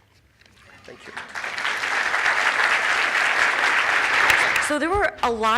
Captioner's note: applause